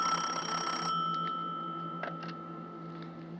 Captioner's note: ringing